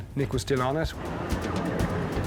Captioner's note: intense music; water whooshing